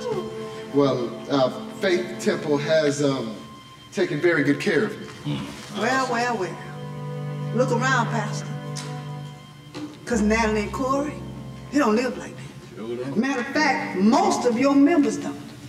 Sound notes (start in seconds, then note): none